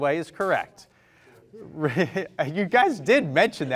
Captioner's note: chuckles